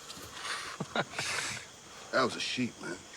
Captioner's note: laughing